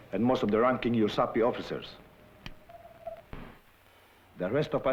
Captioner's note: non-english